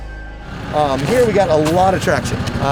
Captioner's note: car engine roaring